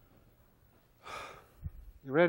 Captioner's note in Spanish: suspira